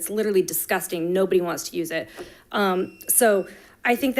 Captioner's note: timer beeping